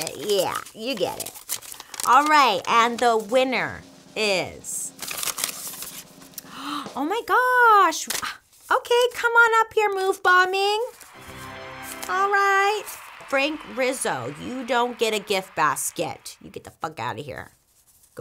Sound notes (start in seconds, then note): 4.9 paper rustles; 10.6 crowd cheers